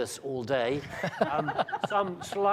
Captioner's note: panel laughs